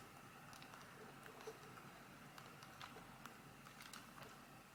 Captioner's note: soft sticking sounds